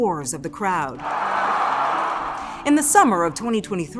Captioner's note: audience cheering